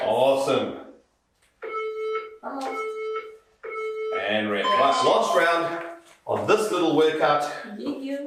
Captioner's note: beeping